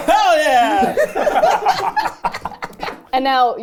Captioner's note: everyone laughing